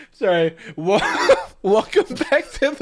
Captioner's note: laughing